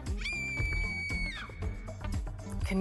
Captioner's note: screams